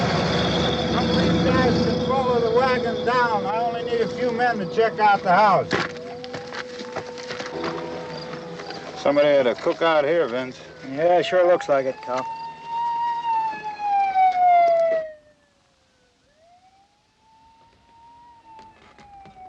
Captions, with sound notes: Some of you guys can follow the wagon down. I only need a few men to check out the house. Somebody had a cookout here, Vince. Yeah, sure looks like it, Kus. [ SIREN WAILING ] [ SIREN WAILING IN DISTANCE ]